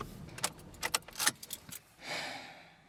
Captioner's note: unplugging keys; Keith sighing